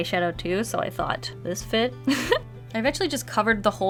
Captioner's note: laughs